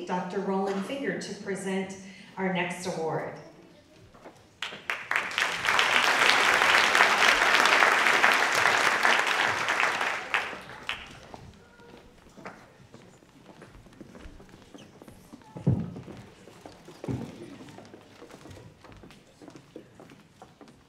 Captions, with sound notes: Dr. Roland Finger, to present our next award. (audience clapping)